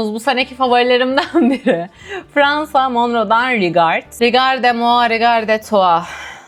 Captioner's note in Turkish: kahkaha